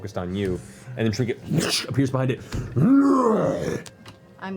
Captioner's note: roars